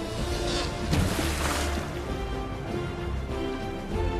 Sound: water splashes

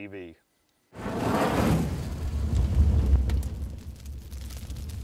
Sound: fire crackling

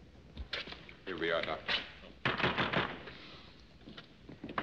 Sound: knocking

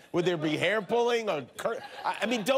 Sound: laughter

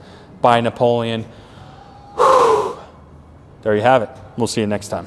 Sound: man sighs

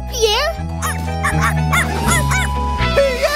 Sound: barking

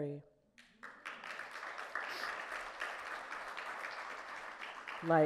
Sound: audience clapping

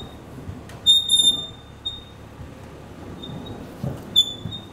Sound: squeaking

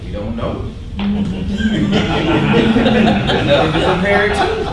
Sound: laughing

